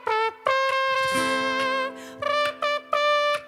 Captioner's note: mouth trumpet sound